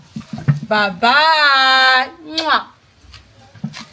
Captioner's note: kisses